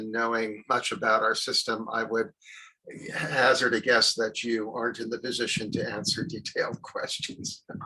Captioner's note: chuckles